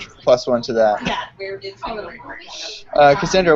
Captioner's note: speaking distorted by recording